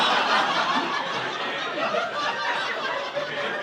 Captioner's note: audience laughing